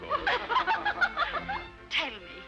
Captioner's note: all laughing